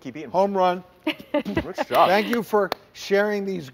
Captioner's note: laughs